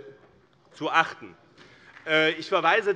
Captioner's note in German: Beifall BÜNDNIS 90/DIE GRÜNEN